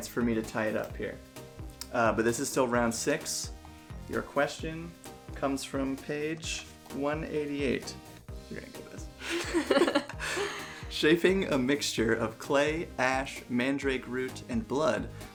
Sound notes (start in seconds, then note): 9.2 both laugh